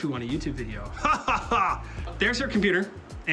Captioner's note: laughs in confident weebism